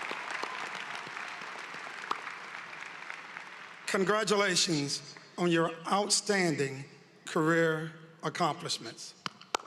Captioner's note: cheering and applause